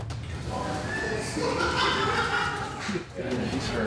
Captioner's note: laughter